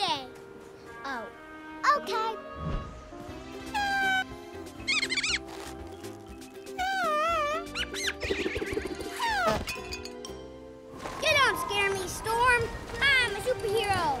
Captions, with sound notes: Oh. Okay. [honking and squeaking] You don't scare me, storm! I'm a superhero